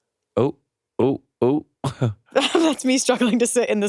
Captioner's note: chuckles